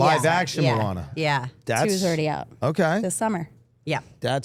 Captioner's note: none